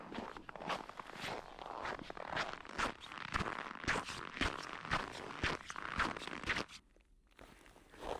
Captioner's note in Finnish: luistelun ääntä